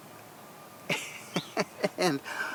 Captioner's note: chuckles